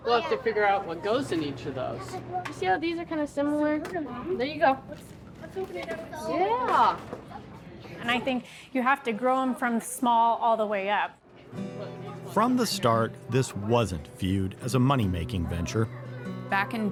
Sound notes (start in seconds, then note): 11.3 people chattering; 12.0 gentle music